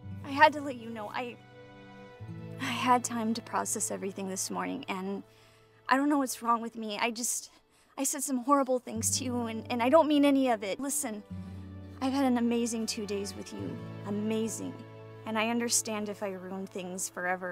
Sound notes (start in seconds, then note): none